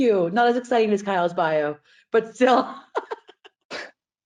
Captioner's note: laughing